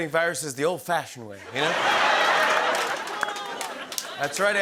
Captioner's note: laughter